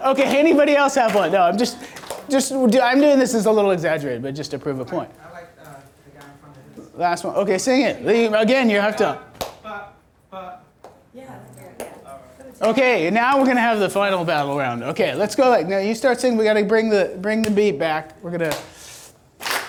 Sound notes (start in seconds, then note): 5.7 voiceover; 9.4 voiceover; 19.4 clapping